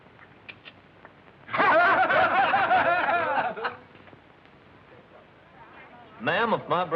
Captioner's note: laughter